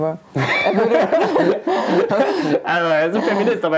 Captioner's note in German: Lautes Lachen